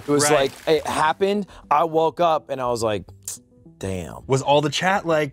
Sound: sucks teeth

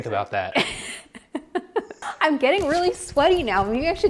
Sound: laughs

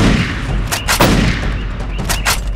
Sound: pow-pow; pow

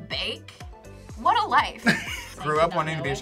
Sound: laughs

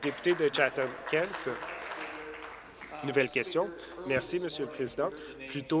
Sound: applause

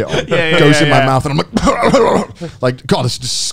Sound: laughing; throwing up

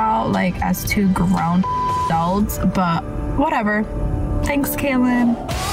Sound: beep

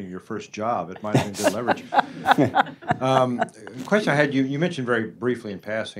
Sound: laughter

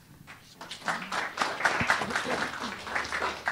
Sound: applause

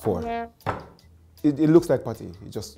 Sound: low horn blows

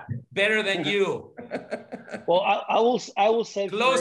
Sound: laugh

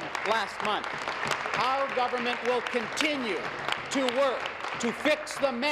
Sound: applause

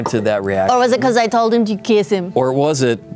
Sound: jester voice

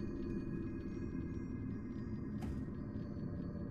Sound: none

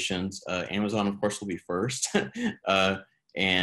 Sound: chuckles

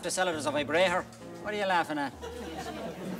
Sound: laughing

